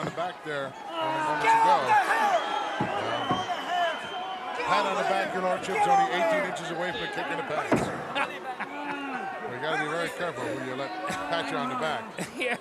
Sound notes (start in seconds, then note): 7.8 laugh